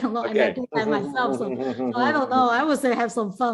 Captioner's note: laughs